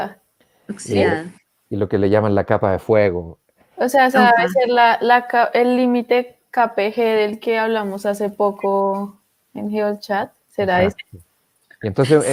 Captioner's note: laughs